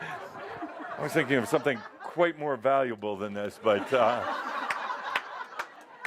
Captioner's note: more laughter